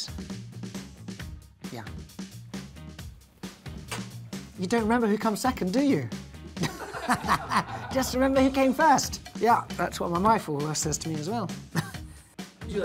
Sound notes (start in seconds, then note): 0.2 upbeat music; 6.1 upbeat music; 6.4 laughing